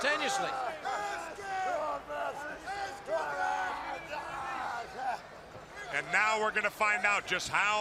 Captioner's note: crowd chatter